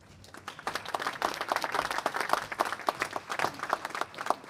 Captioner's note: applause